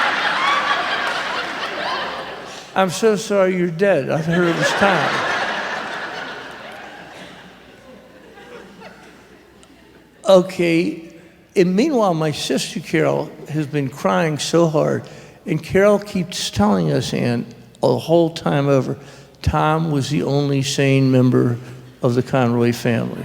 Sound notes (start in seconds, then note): 0.0 raucous laughter; 4.2 more laughter